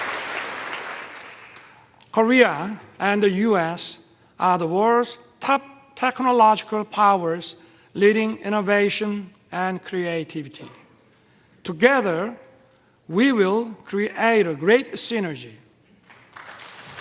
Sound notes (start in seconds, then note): 0.0 applause